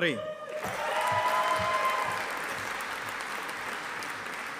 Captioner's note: audience applauding